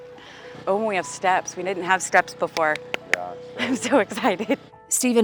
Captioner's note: clapping